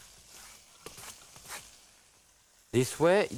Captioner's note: zucchini scrapes